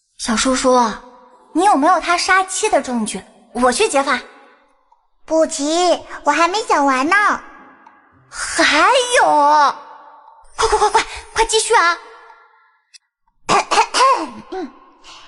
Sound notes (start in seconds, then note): 13.5 cough cough cough